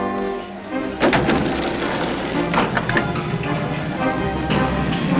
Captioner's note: gate rumbling